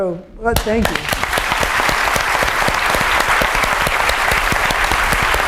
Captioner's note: applause